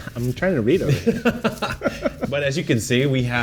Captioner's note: both laughing